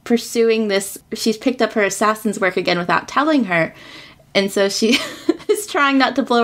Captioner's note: laughs